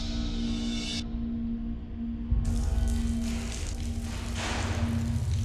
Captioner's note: water leaking